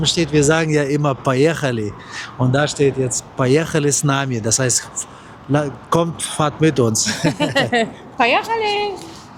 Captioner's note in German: gelächter